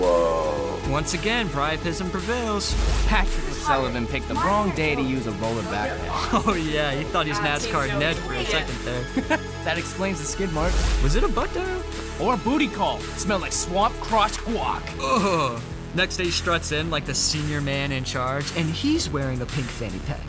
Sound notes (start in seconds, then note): 4.3 muffled chatter; 8.8 Joey laughs